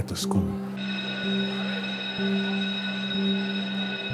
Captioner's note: bell rings